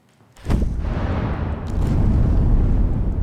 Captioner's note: transdimensional teleportation sound